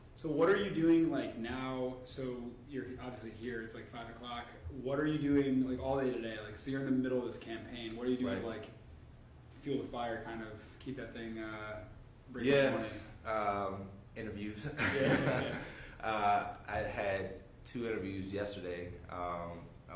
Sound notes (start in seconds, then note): 14.7 laughing